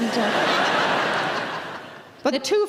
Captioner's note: audience laughing